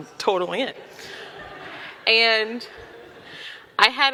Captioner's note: audience laughing